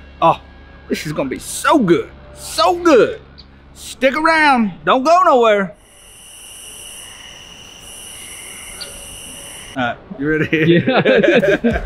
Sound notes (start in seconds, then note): 5.7 crickets